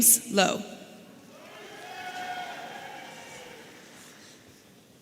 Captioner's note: audience cheering